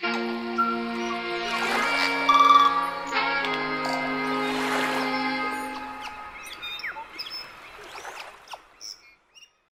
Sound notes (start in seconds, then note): 0.0 bright upbeat music; 0.8 waves sloshing; 3.6 birds chirping